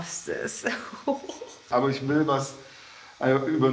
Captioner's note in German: Unsicheres Kichern